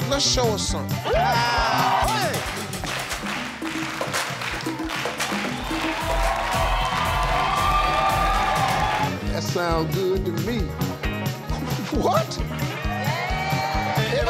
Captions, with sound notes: - Let's show us something. (salsa music) (audience cheering) - That sounds good to me. What?